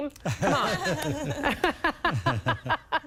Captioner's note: laughing